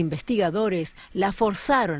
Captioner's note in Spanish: habla en ingles